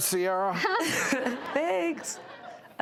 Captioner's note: laughter